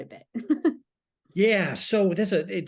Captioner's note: laughs